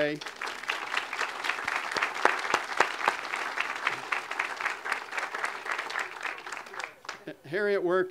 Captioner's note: audience applause